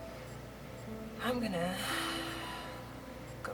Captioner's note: sighs